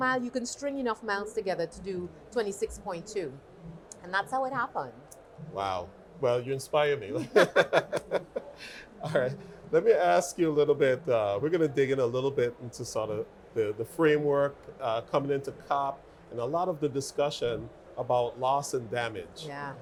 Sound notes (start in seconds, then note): 7.0 laughing